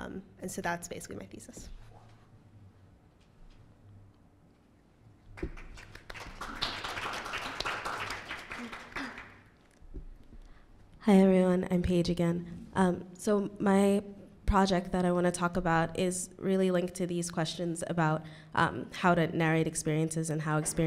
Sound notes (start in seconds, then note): 5.3 applause